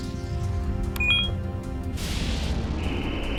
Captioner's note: beeps